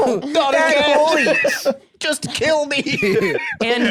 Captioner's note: baby voice